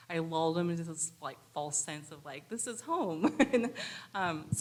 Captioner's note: laughs